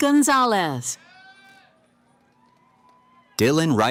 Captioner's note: cheering